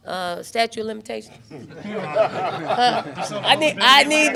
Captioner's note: everyone laughs